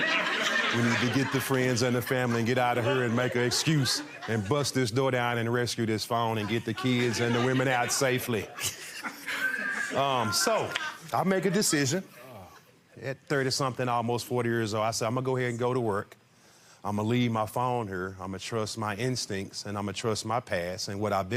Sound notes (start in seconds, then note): 0.0 audience laughing; 9.2 laughs